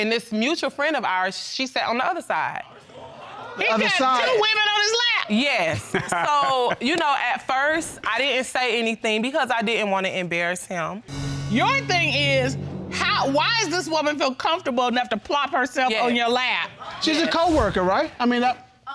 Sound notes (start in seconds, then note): 3.1 gasping in audience; 5.7 laughs